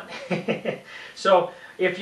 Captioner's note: laughs